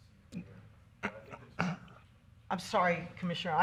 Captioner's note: voice cuts out